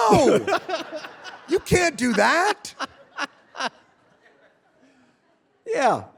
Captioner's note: David laughing